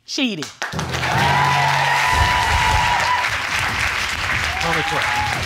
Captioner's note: cheering and applause